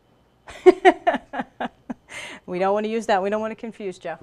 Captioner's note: laughter